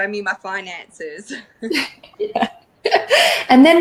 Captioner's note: laughing